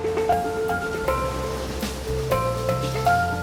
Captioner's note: waves crashing